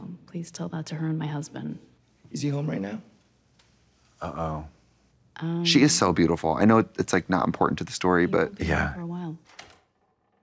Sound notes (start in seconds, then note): none